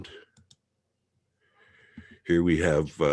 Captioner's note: mouse clicking